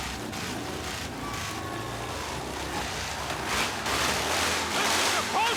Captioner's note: motorcycles revving